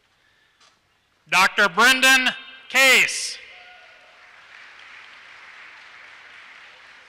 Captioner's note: applause